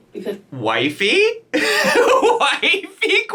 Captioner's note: hysterical laughing